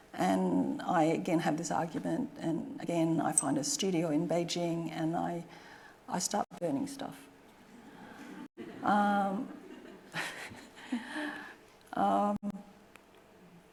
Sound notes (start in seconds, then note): 7.5 audience laughing; 9.6 chuckling